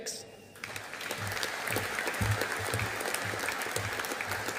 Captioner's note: audience applauding